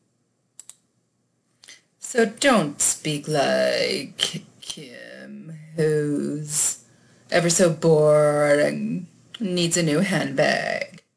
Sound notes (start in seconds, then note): 4.1 affecting vocal fry